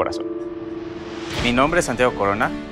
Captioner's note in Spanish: Sonido de ráfaga